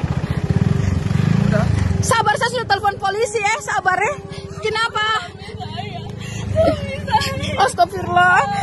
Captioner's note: crying